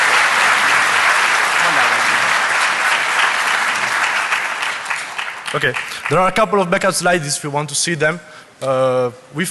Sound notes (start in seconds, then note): 0.0 applause